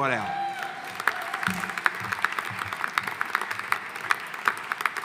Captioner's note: audience applauding